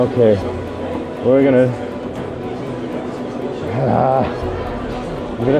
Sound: groans

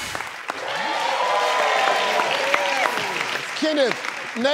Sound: clapping

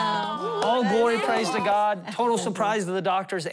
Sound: applause

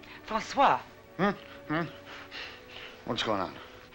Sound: Francois mumbling

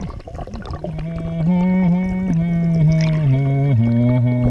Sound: humming

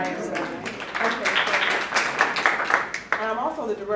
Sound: applause

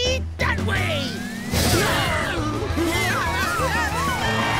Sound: screaming

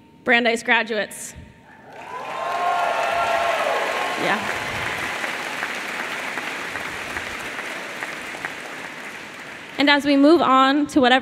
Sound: applause

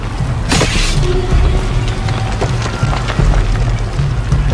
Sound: fire crackling

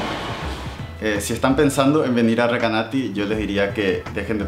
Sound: in Spanish

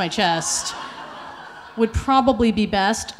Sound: audience laughing

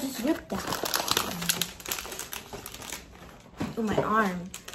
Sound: package crackling

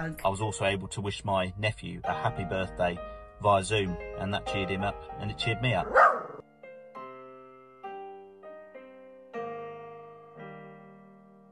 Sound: dog bark

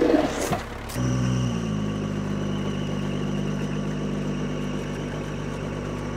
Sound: telehandler engine rumbling

